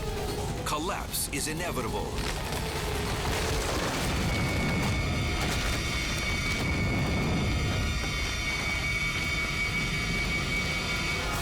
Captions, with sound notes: Collapse is inevitable. (building crashing)